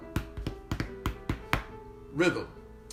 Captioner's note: chest thumping